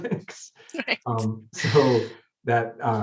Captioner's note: chuckles